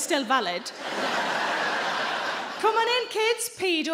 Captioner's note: audience laughing